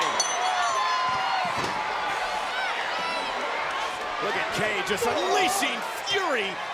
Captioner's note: applause